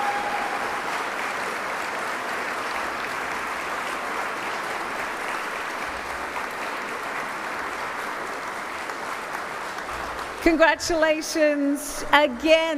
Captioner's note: applause